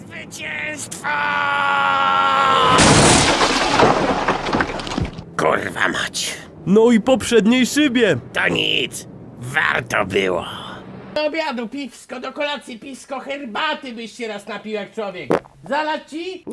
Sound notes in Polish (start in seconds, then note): 2.6 trzask